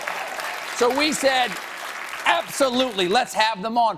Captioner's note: applause